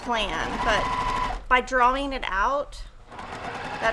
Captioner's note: sewing machine hums